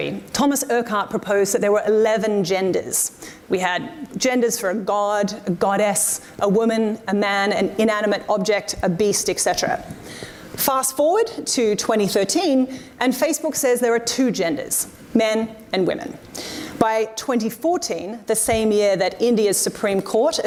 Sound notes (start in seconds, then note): none